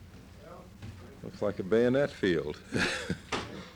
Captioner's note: laughs